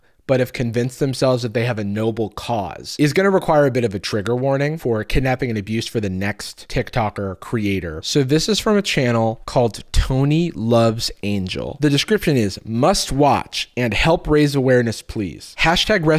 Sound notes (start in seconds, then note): none